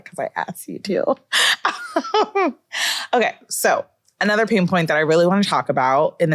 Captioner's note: laughs